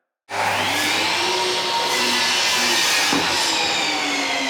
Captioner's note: table saw sound